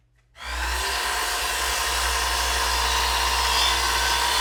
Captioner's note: nail gun snapping; saw whirring